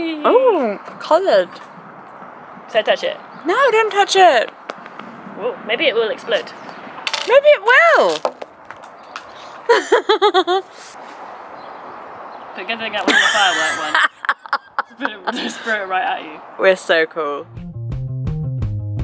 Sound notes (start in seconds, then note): 9.6 laughs; 14.7 laughs